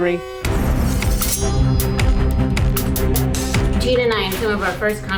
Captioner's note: sword slashing